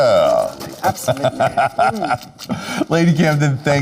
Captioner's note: laughing